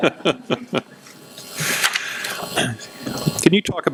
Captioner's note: laughing